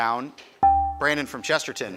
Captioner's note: buzzer chimes